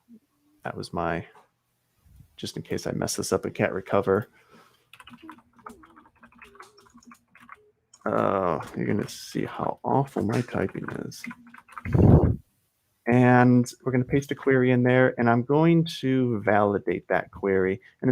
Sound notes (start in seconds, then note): 4.8 keys clacking; 11.9 chuckles